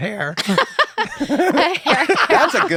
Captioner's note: laughter